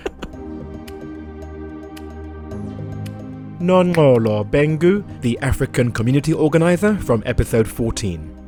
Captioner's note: voiceover